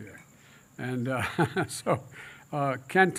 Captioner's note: laughs